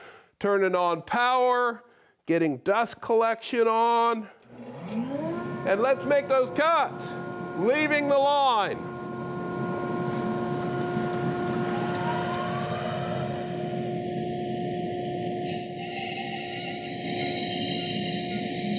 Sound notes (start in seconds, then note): 5.3 saw humming; 12.6 saw humming; 16.3 saw buzzing